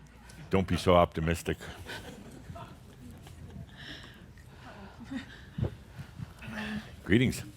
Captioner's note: a few chuckles